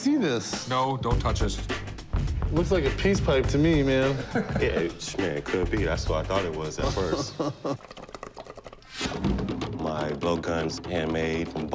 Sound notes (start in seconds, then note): 6.6 bong water bubbling; 6.9 Chumlee chuckles